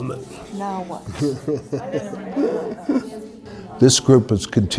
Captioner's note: indistinct chatter